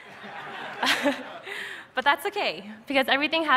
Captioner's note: laughter